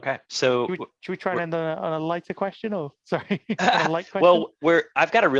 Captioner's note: laughs